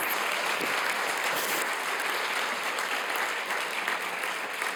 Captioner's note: audience applauds